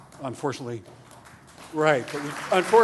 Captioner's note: applause